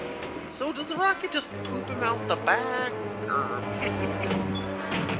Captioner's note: chuckles